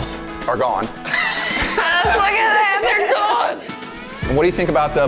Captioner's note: laughs